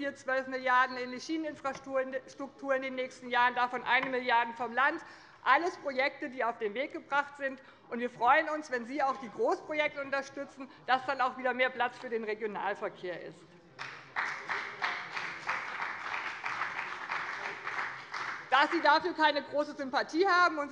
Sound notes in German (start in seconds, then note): 13.8 Beifall bei dem BÜNDNIS 90/DIE GRÜNEN und Abgeordneten der CDU